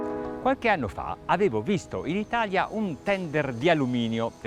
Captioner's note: light music; speaks Italian